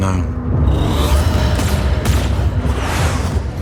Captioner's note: laser shots